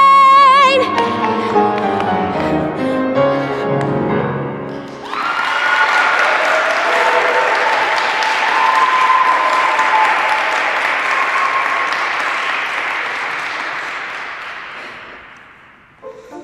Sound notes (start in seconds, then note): 4.8 applause